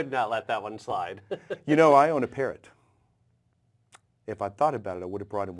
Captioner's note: laugh